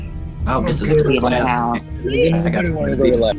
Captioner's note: other students talking; students talking